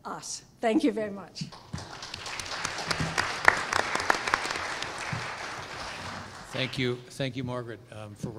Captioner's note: applause